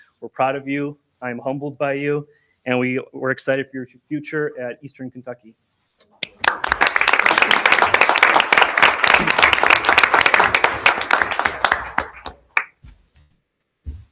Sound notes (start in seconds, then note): 6.2 audience applauding